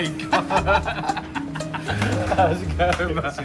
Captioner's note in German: freudiges Lachen